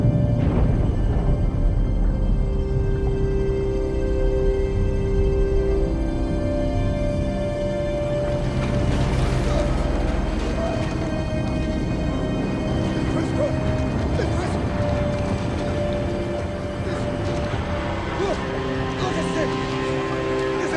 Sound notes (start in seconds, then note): 9.1 Sinclair gasping; 9.1 eerie music